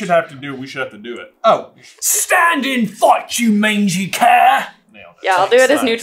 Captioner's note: intense accent